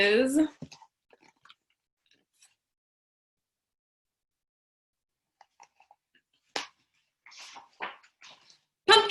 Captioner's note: dramatic pause